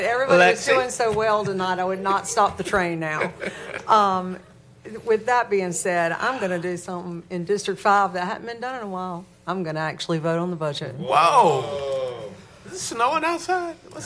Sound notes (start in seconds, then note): 3.0 laughter